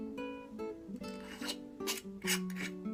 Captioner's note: sound of lid being twisted on